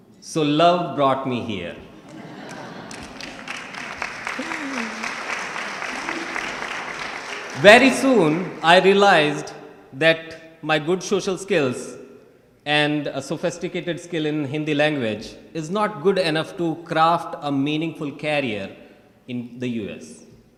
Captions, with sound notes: So love brought me here. (audience laughing and clapping) Very soon, I realized that my good social skills and a sophisticated skill in the Hindi language is not good enough to craft a meaningful career in the U.S.